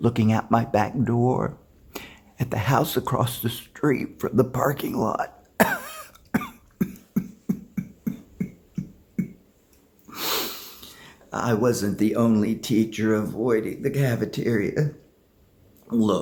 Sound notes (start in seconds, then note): 5.6 coughs